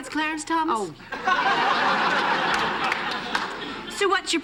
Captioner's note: laughter